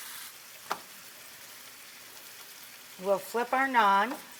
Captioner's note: griddle sizzling